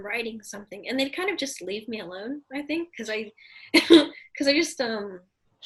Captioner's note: laughs